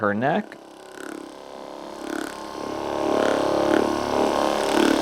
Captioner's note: massage gun vibrates